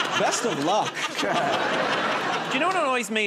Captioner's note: laughter